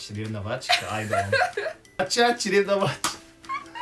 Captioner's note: laughs